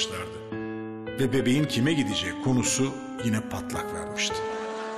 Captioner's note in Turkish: Ahmet dış ses